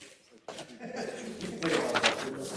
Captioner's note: laugh